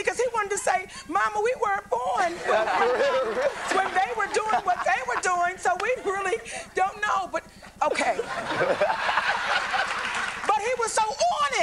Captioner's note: applause